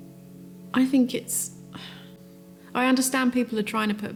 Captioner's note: sighs